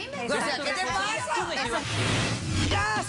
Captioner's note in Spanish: hablan al unisono